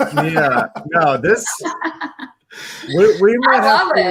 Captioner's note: laugh